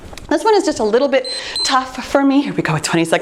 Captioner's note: timer beeps